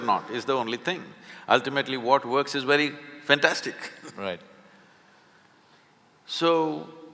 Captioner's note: laughs